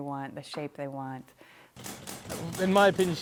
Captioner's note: machine thudding